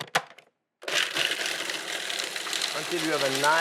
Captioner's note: almonds rattling